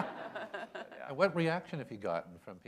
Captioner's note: laughter